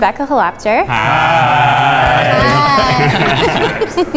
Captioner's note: in Unison; laughs